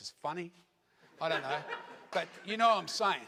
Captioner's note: audience laughs